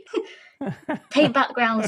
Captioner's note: laughter